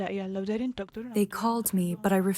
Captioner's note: through translator